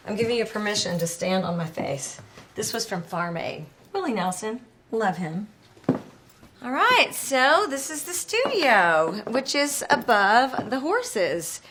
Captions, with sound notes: I'm giving you permission to stand on my face. This was from Farm Aid, Willie Nelson. Love him. [footsteps thudding] All right, so this is the studio which is above the horses.